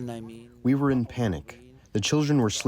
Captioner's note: through translator